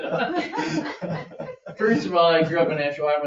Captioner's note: members laugh